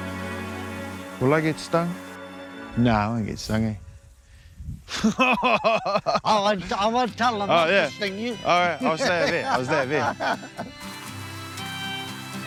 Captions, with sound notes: - Will I get stung? No, I won't get stung. (laughing) - Oh won't, I won't tell them. - Oh yeah. - They won't sting you. - I'll stay up here. I'll stay up here.